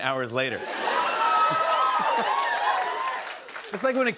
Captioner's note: cheers and applause